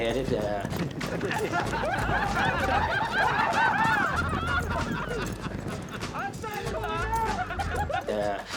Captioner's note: all cowboys laughing